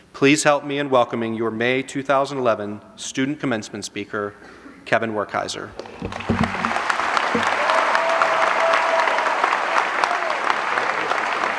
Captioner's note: applause